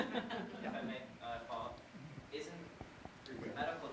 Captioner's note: audience laughter